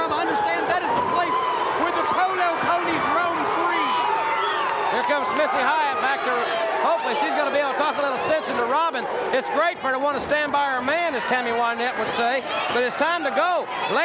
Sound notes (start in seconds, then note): 3.9 audience cheers